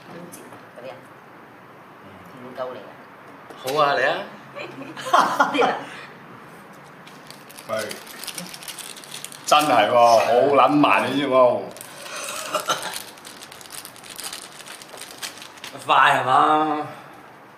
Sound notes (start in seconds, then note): 5.1 OR KIA laughs; 12.1 MONK coughs